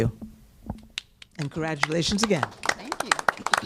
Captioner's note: applause